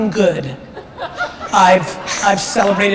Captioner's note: audience laughter